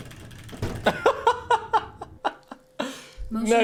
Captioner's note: laughs